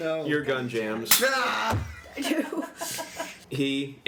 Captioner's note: yells of exasperation